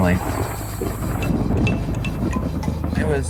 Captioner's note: thunder clap